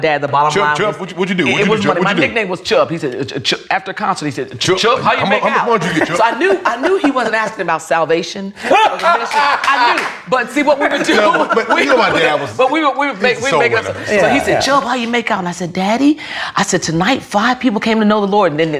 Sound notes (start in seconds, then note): 5.2 laughs; 8.9 claps